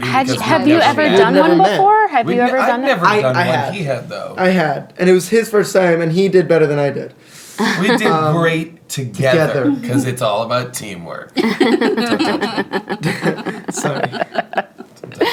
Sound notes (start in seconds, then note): 11.4 laughing